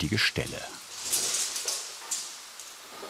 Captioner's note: clattering